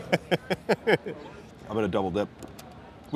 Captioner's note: laughing